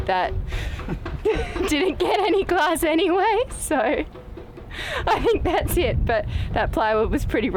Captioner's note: laughs